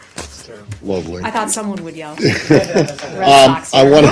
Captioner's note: laughter